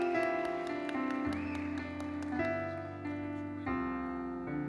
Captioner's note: audience applauding; gentle music continues